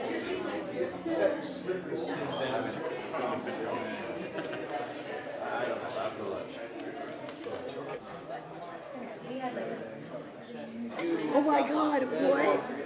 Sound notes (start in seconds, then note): 9.1 talking softly